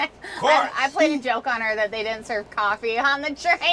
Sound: laughs

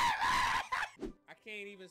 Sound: screaming

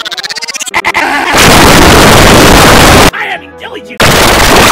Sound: kaboom

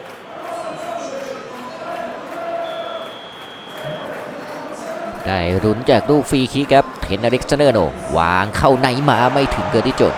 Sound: applause

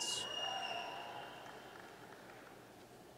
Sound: applause

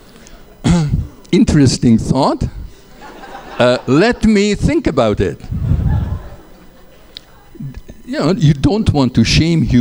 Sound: laughter

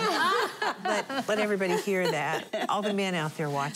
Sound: laughing

